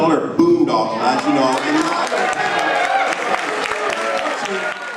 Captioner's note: clapping and Cheering